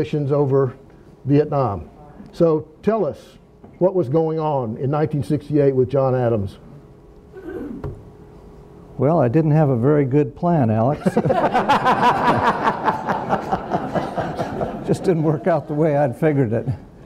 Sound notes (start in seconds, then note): 10.9 attendees laughing